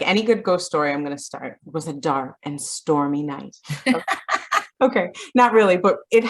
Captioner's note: laughs